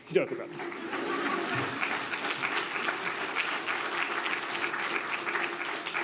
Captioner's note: attendees laughing and applauding